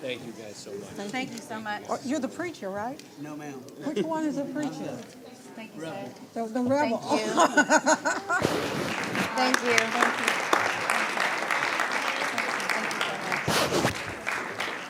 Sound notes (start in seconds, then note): 7.1 laughing; 11.2 clapping